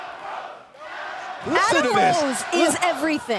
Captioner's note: fans chanting